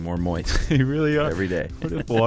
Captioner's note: laughs